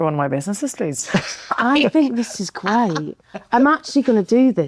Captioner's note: laughing